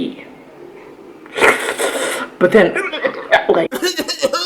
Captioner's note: slurping sound; coughing sound